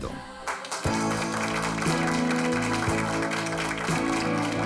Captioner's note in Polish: Aplauz